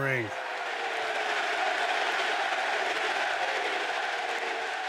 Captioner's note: audience cheering